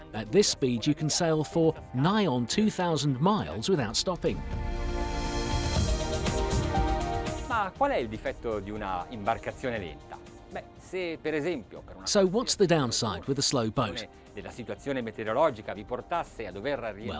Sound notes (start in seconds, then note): 7.9 speaking in foreign language